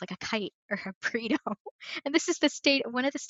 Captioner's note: laughs